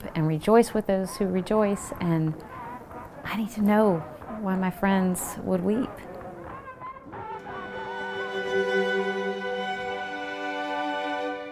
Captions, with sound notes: and rejoice with those who rejoice, and I need to know when my friends would weep. (protesters chanting and clapping) (dramatic orchestral music)